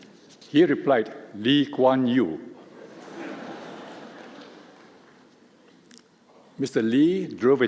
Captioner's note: laughter